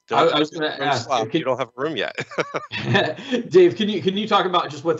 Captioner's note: laughs